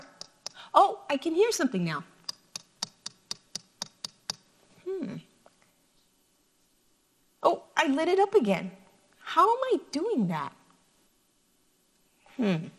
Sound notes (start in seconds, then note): 2.2 soft tapping